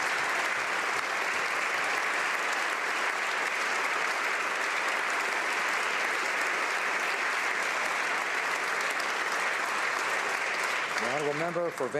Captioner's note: applause